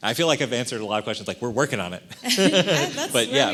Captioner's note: laughing